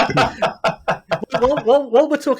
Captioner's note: laughter